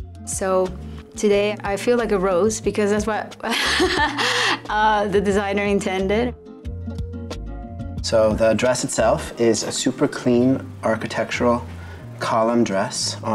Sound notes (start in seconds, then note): 3.5 laughs